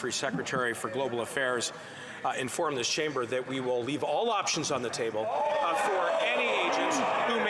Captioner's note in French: voix de l'interprète